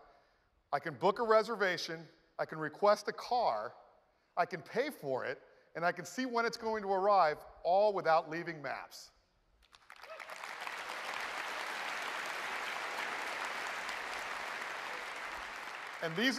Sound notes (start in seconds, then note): 9.2 applause